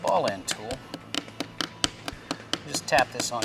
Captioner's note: tapping